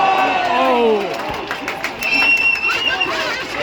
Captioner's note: applause/whistling